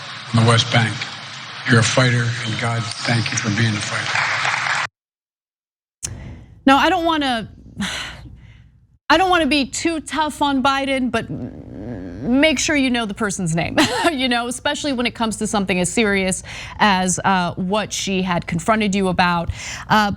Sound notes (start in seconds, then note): 4.3 applause; 13.3 laugh